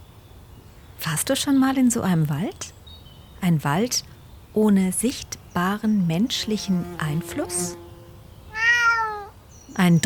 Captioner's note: meowing